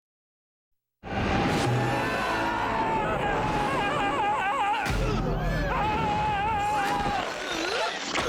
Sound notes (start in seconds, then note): 1.0 grinch screaming; 4.8 grunting